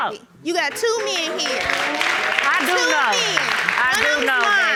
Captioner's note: audience applauding